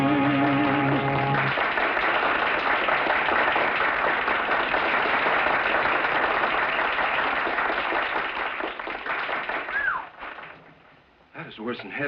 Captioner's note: applause